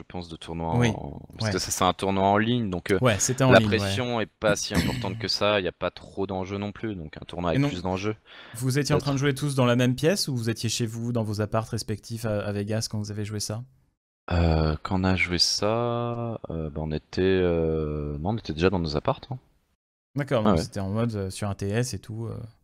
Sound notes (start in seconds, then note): 15.9 hesitates